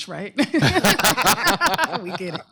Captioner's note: laughter